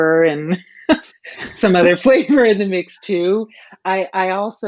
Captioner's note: laughing